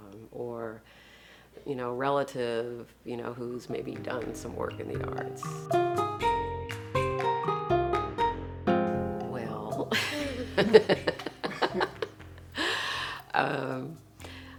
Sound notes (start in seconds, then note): 5.8 exotic rhythmic music; 9.9 laughs